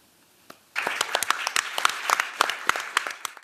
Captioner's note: applause